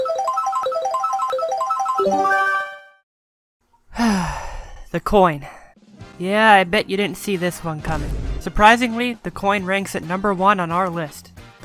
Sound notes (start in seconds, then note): 3.8 sigh of predictability; 7.8 overused vine boom